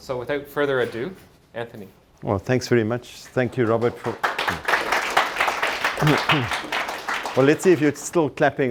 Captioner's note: applause